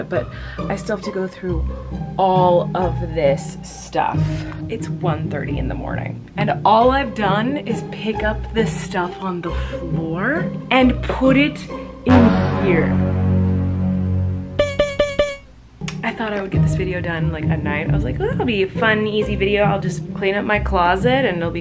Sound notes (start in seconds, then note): 12.1 booming; 12.7 dinging